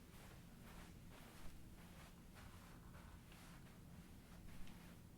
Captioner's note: soft footsteps